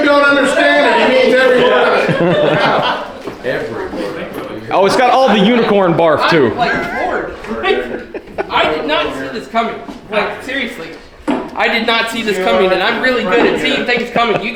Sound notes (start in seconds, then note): 0.6 laughing